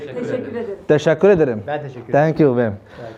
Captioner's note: Turkish